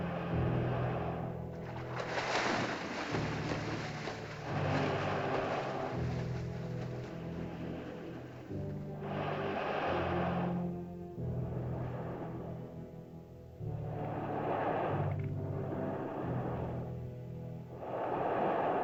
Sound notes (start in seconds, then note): 0.0 dinosaur's labored breathing; 0.0 ominous music; 1.5 water splashes; 1.6 ominous music; 7.0 dinosaur's labored breathing; 7.8 ominous music